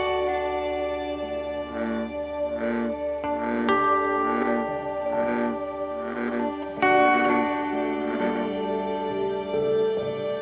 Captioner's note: bullfrogs Croaking